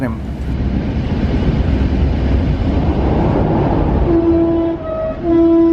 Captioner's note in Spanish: sonido del tren